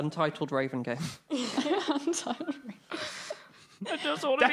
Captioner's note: all laughing